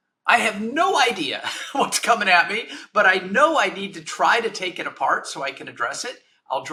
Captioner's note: chuckles